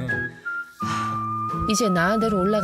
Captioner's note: sigh